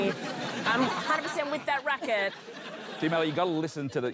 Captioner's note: laughter